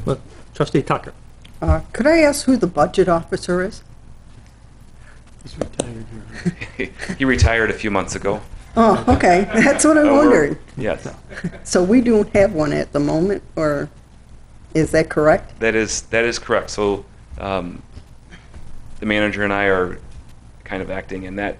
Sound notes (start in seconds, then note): 6.2 chuckling; 10.9 chuckling